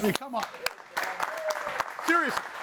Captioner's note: audience applauding